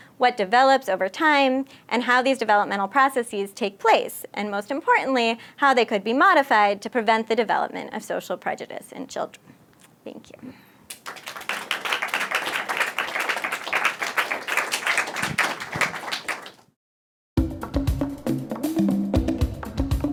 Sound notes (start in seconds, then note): 10.8 applause; 17.2 upbeat music